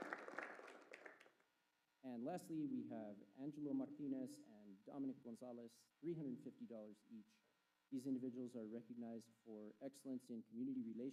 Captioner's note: applause